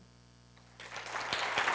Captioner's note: applause